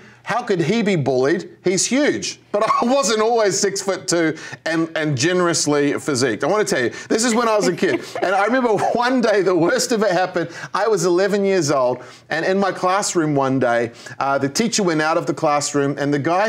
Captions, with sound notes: How could he be bullied? He's huge. But I wasn't always six foot two and generously physiqued. [Laughter] I want to tell you; this is when I was a kid. And I remember one day the worst of it happened. I was eleven years old and in my classroom one day the teacher went out of the classroom and the guy